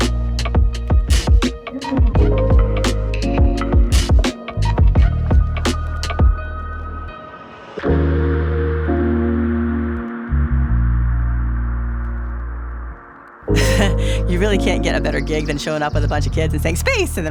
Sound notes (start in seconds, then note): 5.4 rhythmic music continues; 13.5 chuckles